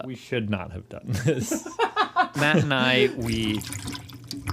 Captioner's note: laughs